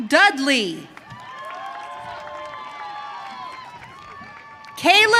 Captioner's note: audience cheering